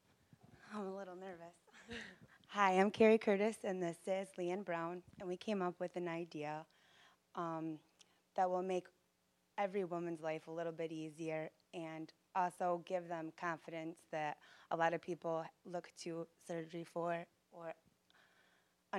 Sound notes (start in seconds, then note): 1.8 both laughing